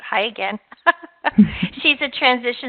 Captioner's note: laughing